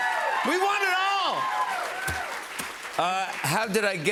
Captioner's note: cheers and applause